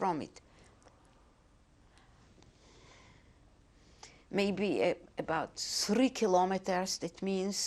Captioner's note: pauses for 3 seconds